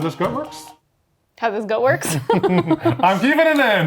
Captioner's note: both laughing